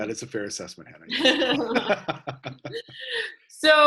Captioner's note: laughter